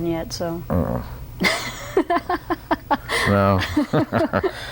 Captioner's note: laughter